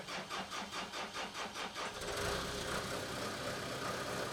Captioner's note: engine rumbles